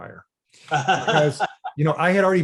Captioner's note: laughs